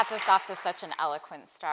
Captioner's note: applause